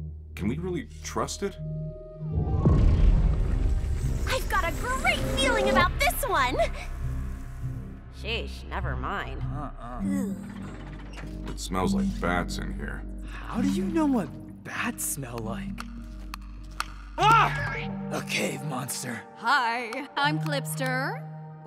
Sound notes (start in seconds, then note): 16.0 clicking noises